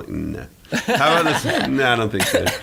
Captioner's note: laughing